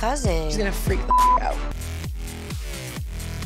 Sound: beep; pounding techno music

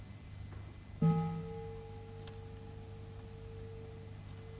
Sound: bell rings

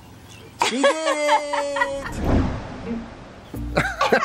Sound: laughing

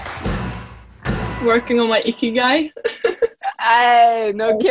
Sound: chuckles

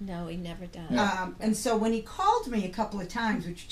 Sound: voiceover

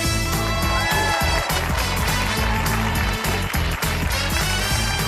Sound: applause

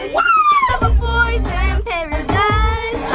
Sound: excited yelling

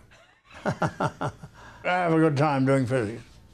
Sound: chuckles

